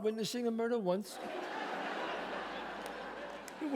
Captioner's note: audience laughs